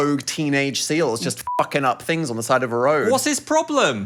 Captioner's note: beep